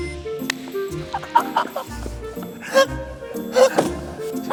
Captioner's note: laughing